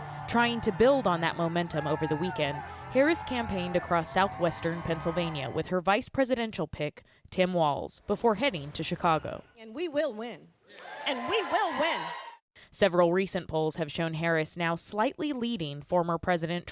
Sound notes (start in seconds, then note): 12.7 applause; 12.7 cheering